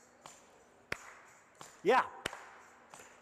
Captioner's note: audience claps rhythmically